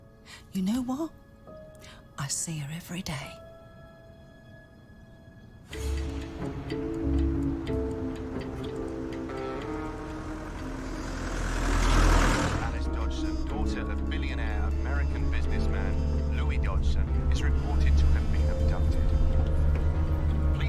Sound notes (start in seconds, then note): none